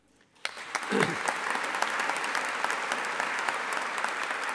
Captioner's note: audience applauding